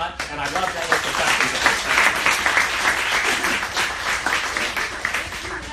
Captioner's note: applause drowns out speaker